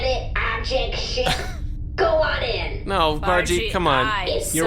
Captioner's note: PLECK laughs